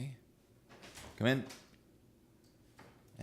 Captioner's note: knock on door